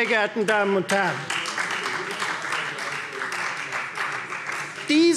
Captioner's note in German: Beifall Freie Demokraten